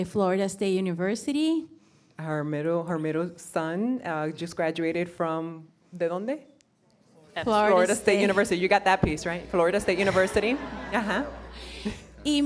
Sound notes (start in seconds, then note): 6.2 speaking in foreign language